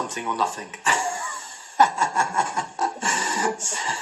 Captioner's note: Gelach